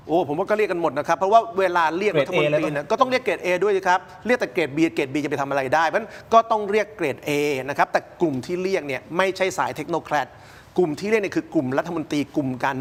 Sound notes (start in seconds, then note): none